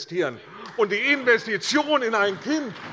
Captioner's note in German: Beifall bei der CDU und dem BÜNDNIS 90/DIE GRÜNEN